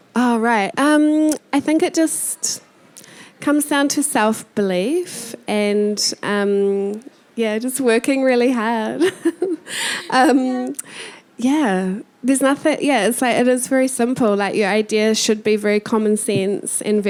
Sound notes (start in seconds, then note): 9.0 chuckling